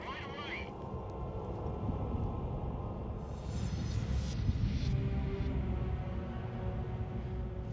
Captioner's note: low growl of the wind